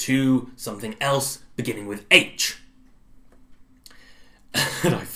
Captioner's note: laughs